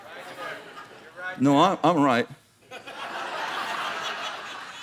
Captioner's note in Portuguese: risos